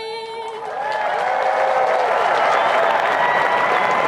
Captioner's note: applauding